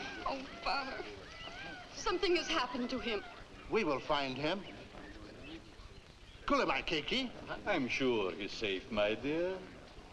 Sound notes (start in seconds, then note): 6.4 Rakos speaking in foreign language